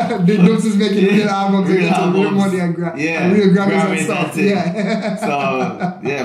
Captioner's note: laughs loudly; laughing loudly